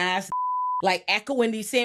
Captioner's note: beep